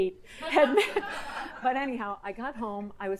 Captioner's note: audience laughing